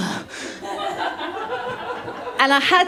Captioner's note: laughter